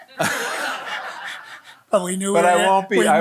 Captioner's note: audience laughing